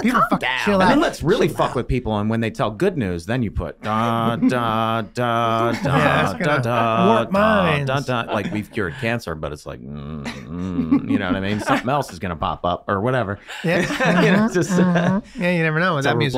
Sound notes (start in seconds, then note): 3.9 humming Theme; 9.9 humming